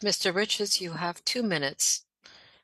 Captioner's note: speaking French